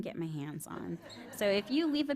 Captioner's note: laughter